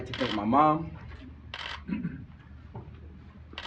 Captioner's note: camera shutters clicking